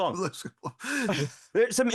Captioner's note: laughing